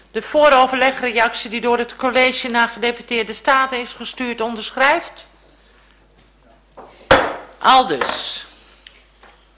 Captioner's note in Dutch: voorzitter klopt met hamer